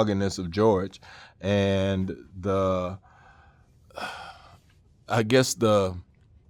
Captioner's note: sighing